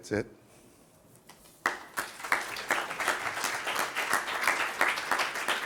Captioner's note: applause